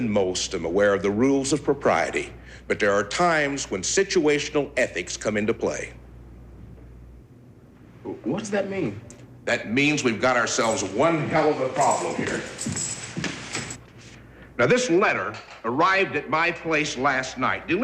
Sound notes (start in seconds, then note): 11.6 keys jangling